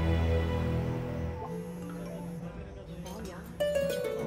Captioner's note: Notification sound